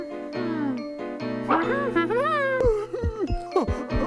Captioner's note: Toothy humming